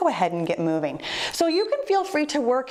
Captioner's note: timer beeps